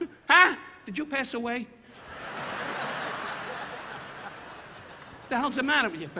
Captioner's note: audience laughing